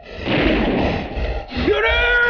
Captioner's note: gun firing